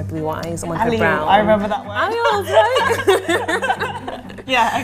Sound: laughs

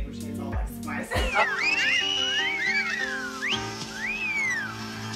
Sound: whistling

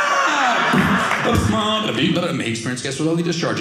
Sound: car radio sound

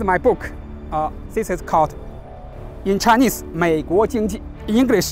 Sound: speaks in Chinese

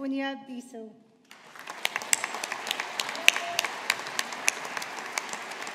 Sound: audience applauding

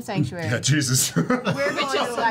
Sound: laughs

